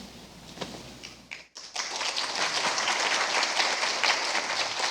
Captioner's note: applause